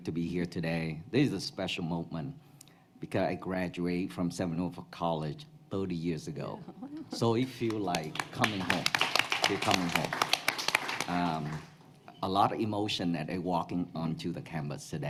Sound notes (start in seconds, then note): 10.1 applause